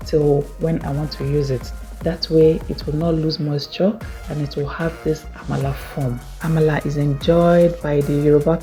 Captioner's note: Yoruba